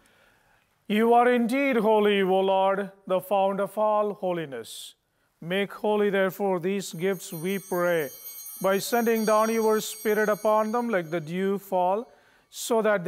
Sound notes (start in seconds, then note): 6.8 bell ringing